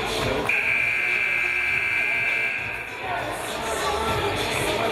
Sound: game buzzer buzzes

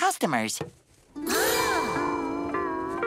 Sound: gasps

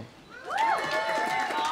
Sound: audience cheering; audience applauding

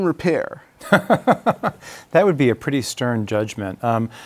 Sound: laughs

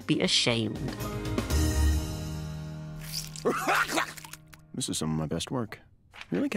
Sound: gags

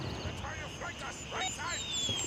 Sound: gunfire

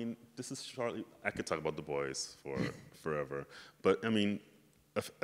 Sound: chuckles

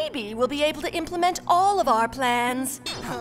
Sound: groans

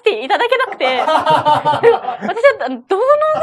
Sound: laughs

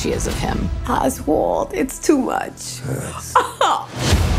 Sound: laughs

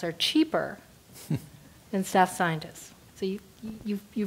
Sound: laugh

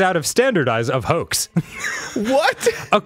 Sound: laughter

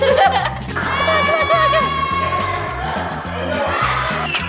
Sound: laughs; all shouting

